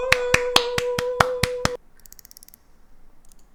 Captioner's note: clapping